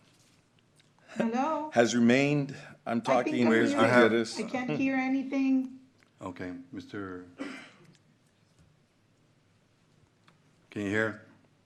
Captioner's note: clears throat